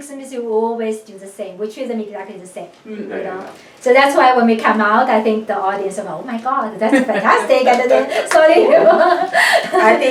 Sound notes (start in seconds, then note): 7.6 claps